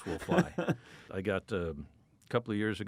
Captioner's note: laughs